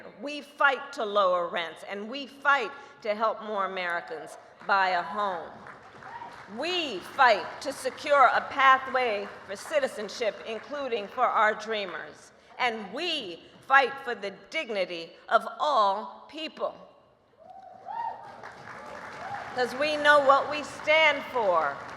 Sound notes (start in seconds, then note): 5.1 applause; 17.7 applause